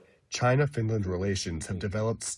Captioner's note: through translator